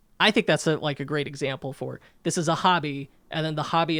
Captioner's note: none